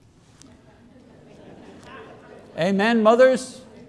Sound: audience laughter

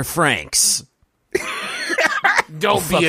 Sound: laughing

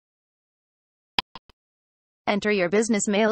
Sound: click sound

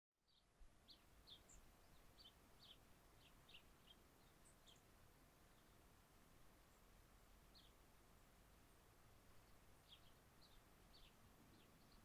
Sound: birds gently chirp in the background--silent canyon breeze

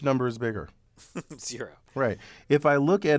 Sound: laugh

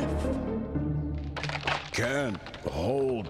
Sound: branch breaking

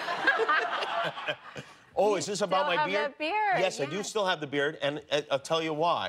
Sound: laughter

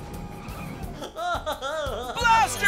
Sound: laughing

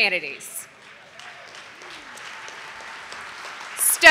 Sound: audience applauding

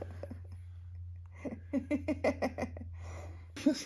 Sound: laughs

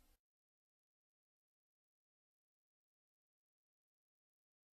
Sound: silence

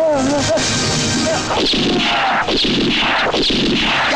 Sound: gun Firing

